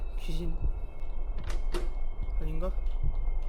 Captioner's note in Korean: none